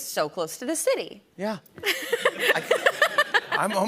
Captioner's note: laughter